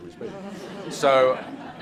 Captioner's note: audience laughs